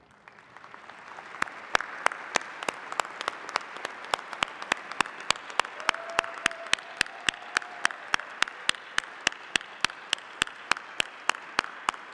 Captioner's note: applause